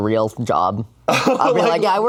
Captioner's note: laughs